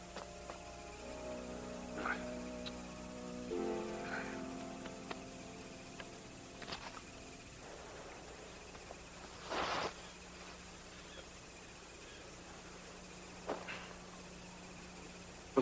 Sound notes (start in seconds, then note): 4.0 exasperated sigh; 7.9 bird calling